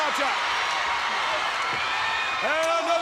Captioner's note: crowd cheers